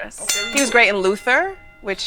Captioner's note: ding ding